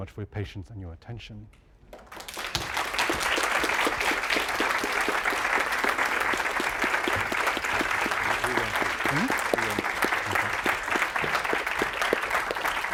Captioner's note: applause